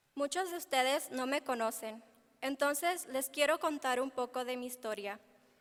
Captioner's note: speaking in foreign language